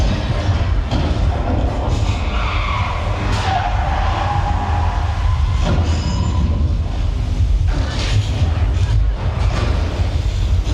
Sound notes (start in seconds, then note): 2.4 brakes squeal; 6.3 building rumbles